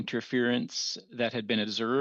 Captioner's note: speaking French